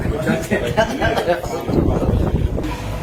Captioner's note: chuckles